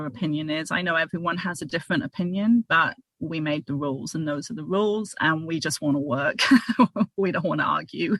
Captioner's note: laughter